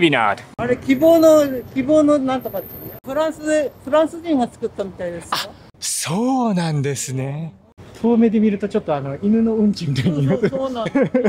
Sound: chat in japanese

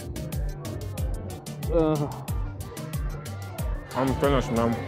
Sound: Harry groans

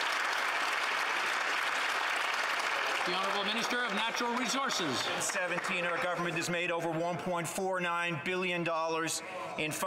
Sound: some Applause

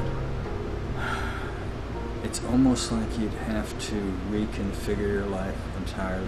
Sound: sighing

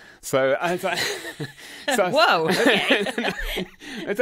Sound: laughs

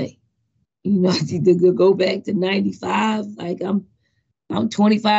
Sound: chuckles

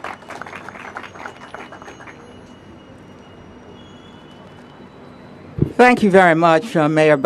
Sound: applause

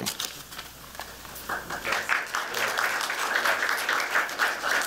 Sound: applause

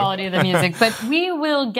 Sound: laughing

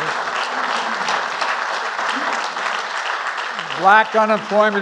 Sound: applause

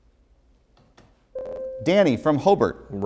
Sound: buzzer

